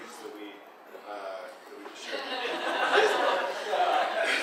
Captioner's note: audience laughing